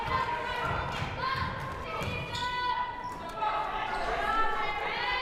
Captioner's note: crowd shouting